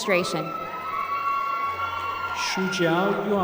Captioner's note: applause